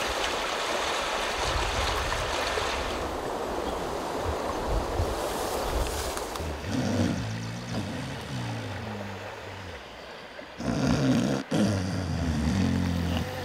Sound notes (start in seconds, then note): 0.2 water lapping; 3.6 wind gusting; 7.2 snoring